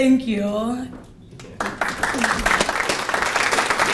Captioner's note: applause